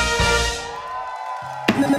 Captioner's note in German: Jubel, Applaus